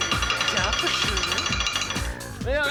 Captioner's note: speaking german